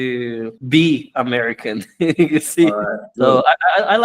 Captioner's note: laughs